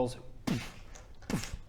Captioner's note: boof